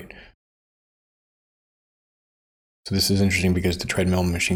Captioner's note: silence